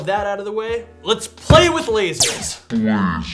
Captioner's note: hand thumps; laser fires